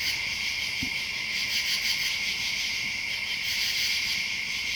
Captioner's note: insects chirping